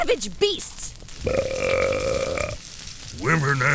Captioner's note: long belch